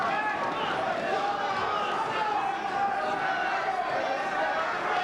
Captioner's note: spectators cheering